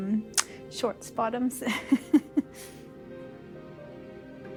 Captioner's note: laughing